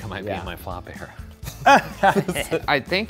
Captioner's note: laugh